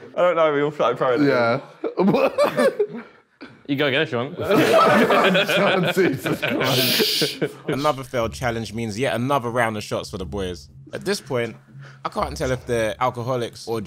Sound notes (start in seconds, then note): 4.4 group laughing